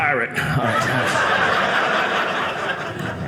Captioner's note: audience laughing